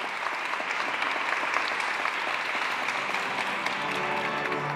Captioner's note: applause